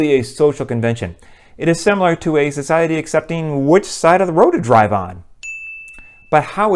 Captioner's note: chime